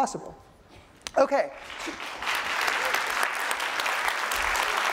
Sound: applause

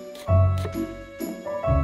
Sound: knife chopping

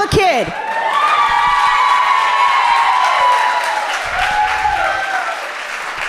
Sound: audience cheering loudly

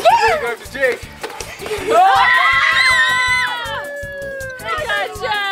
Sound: everyone yelling and cheering

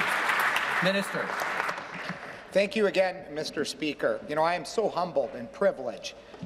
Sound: applause

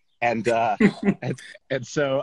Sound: laughs

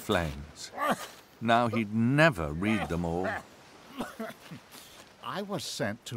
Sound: cough

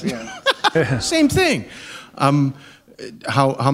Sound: laughter

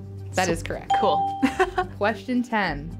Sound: laughing

